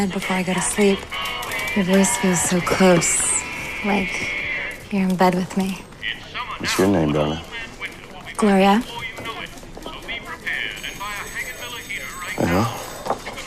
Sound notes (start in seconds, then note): 8.9 man on radio